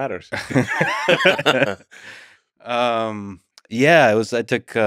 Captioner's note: both laughing